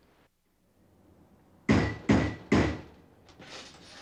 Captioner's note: pounding on door